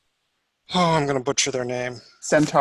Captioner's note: sighs